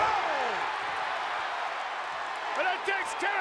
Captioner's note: audience cheering